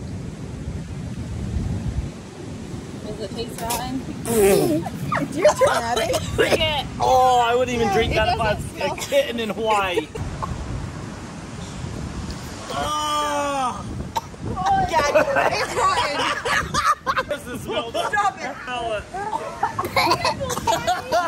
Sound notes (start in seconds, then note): 4.2 spitting; 12.7 yelling; 14.6 laughing; 18.7 laughing and yelling